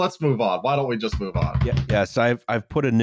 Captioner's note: multiple thumps on desk